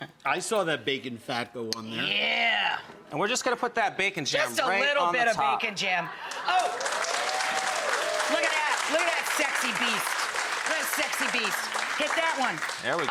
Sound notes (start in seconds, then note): 6.2 audience applause